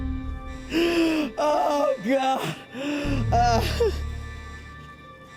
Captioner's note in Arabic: ينتحب